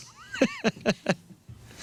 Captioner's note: laughing